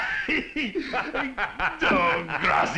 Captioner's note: laughing